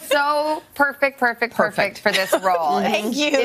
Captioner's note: laughter